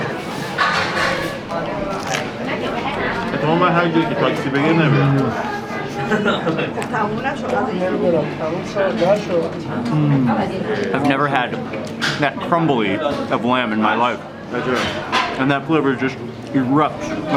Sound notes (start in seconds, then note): 0.2 onion crunching; 3.4 man speaking in foreign language